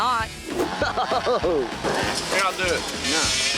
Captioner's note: spectator laughing